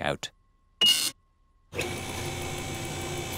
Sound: beeping

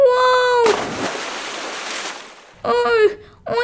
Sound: splash

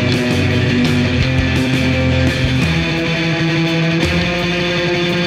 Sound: none

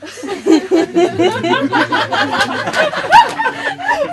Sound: laughter

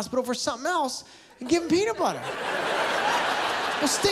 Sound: laughter

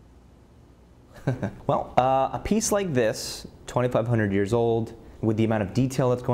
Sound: laughs

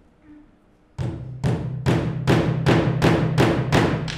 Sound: banging

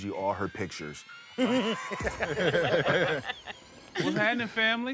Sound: laughter

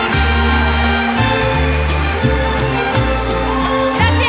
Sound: Gritos y aplausos

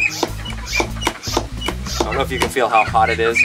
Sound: squeaking

